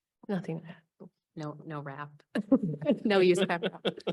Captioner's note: laughter